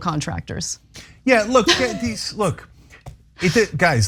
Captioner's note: laugh